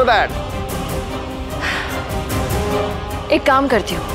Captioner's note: Tipsy sighs